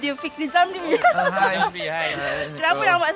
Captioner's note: laugh